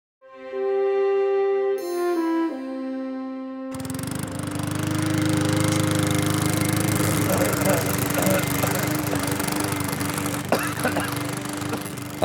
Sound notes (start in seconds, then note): 3.7 lawn mower whirring; 7.6 man coughing